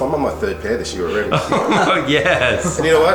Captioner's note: laughs